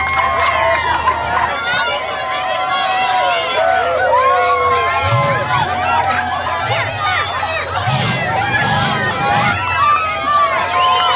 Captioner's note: cheering crowd